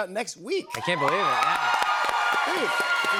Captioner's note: cheers and applause